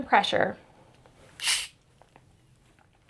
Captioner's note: hissing sound